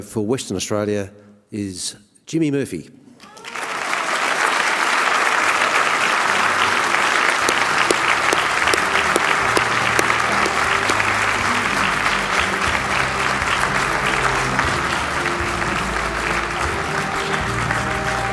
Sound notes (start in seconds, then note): 3.2 applause